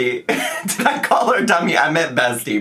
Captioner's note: laughing